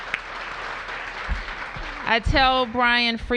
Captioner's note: applause